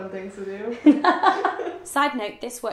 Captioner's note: laughing